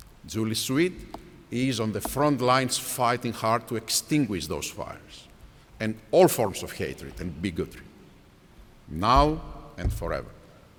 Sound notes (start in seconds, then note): none